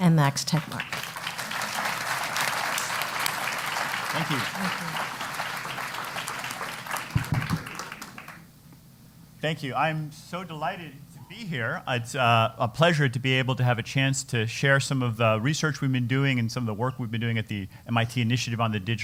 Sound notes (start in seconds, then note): 0.4 applause